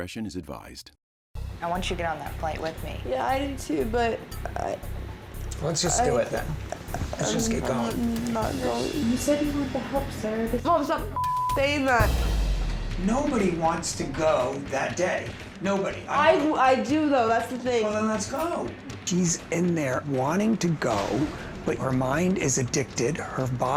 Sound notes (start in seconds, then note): 11.1 beep